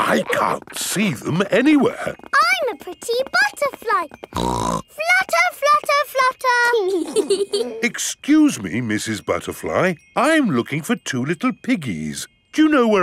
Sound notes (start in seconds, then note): 4.2 snorts; 6.9 both giggling